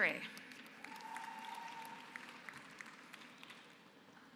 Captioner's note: applause